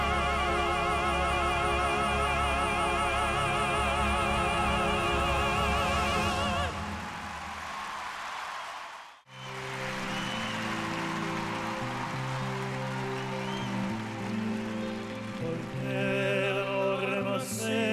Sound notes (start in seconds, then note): 6.0 cheering and applause